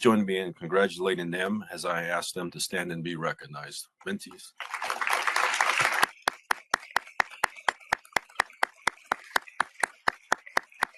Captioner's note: applause